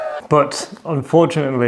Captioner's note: crowd cheers